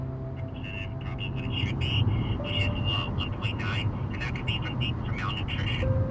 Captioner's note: gentle music; person speaking over telephone